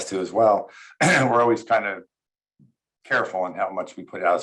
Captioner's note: clears throat